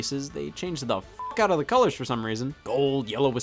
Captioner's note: beep